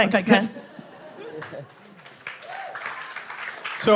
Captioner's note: cheering